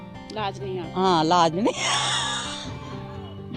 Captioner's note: laughs